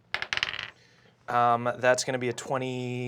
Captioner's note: rolls dice